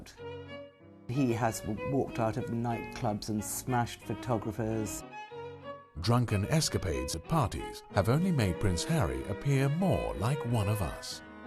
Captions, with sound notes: He has walked out of night clubs and smashed photographers. - [Voiceover] Drunken escapades and parties have only made Prince Harry appear more like one of us.